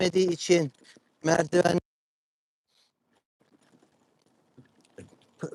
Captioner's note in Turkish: homurdanır